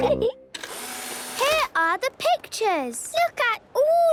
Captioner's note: whirring